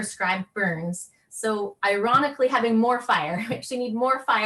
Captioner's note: laughing